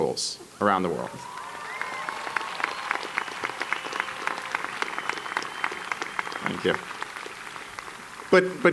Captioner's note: applause